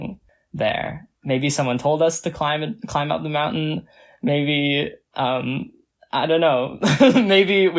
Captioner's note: laughs